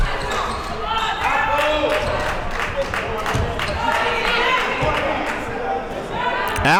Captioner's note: hands clapping